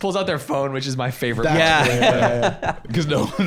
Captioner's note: laughing